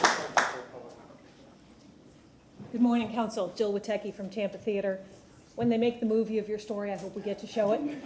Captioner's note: applause